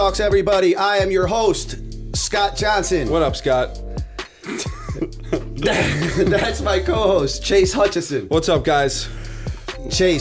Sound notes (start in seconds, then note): 4.2 chuckle